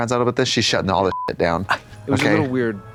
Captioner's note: beep